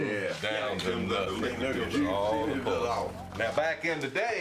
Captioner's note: group chatter